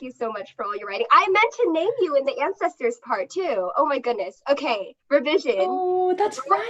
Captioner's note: laughter